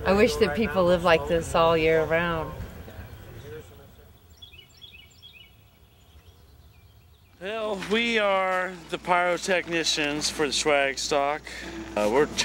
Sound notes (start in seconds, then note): 4.6 birds chirping